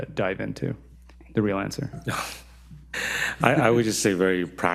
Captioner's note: scoffs